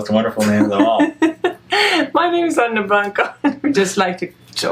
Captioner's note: laughs